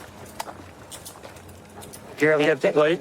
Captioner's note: handcuffs clicking